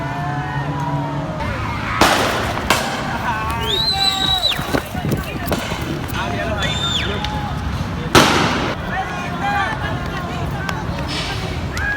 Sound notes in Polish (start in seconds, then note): 1.4 Strzały